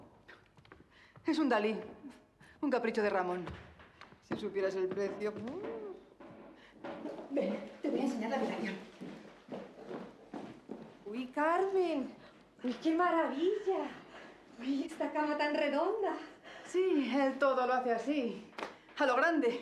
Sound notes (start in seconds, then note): none